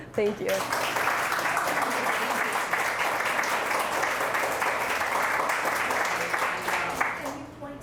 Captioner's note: applause